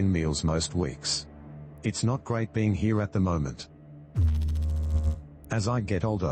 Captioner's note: electrical noise